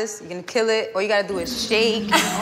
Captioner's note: laughter